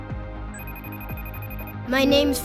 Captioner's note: phone rings